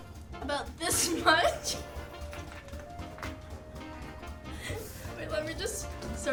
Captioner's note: more giggles